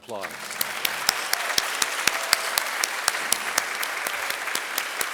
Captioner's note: audience applauding